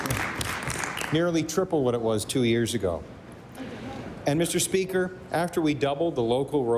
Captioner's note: applause